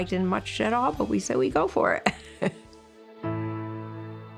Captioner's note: laughs